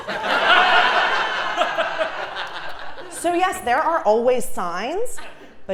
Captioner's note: laugh